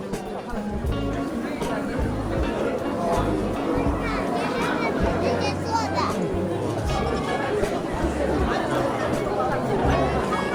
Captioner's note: so many crowd rushing